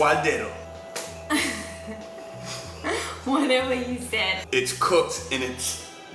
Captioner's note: laughing